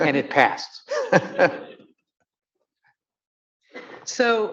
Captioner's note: laughing